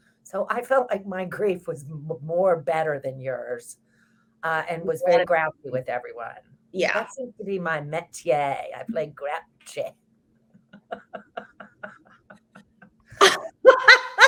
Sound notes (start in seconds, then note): 10.6 both laughs